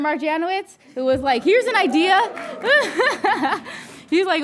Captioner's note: laughing